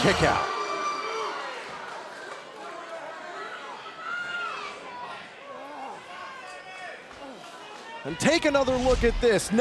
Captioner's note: crowd chatter